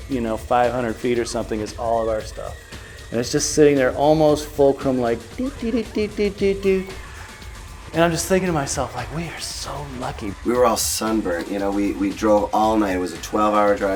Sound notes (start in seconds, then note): 5.4 tipping noise